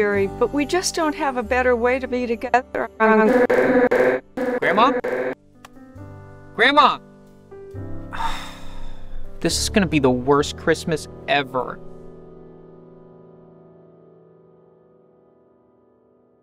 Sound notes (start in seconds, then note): 3.2 audio stutters; 8.1 sighs